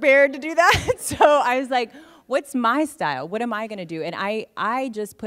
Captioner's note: laughter